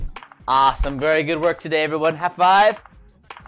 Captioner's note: cartoon clapping